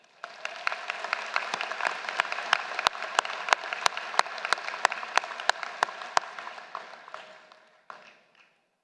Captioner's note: applause